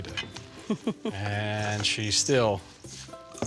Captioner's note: laughter